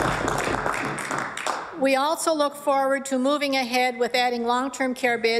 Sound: applause

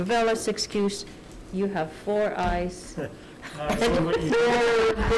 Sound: laughing

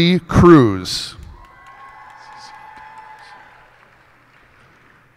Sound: cheers and applause

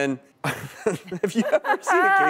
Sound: both laughing

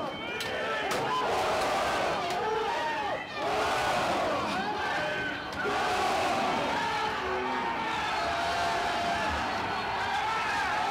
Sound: chanting

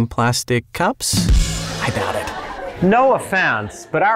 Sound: laughter

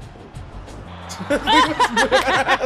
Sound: laugh

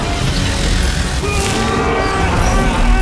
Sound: mysterio yells

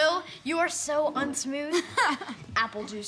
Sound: laugh

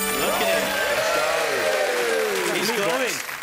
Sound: chiming music; cheering

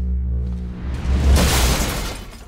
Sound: clanking

